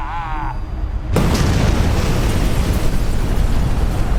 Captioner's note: explosion